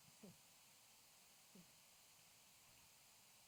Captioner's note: none